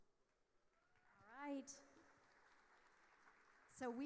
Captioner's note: audience applauding